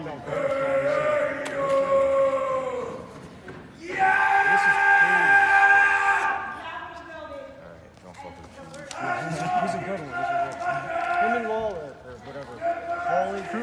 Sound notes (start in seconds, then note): 0.1 horned man chanting and yelling; 6.7 woman yelling; 12.6 man yelling